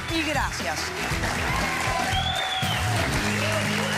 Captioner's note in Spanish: aplausos; aclamaciones